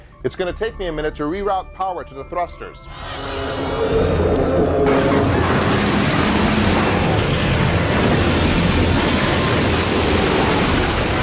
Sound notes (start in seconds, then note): 4.6 tearing, metal breaking up; 10.6 explosion